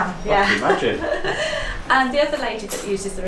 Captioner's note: laughs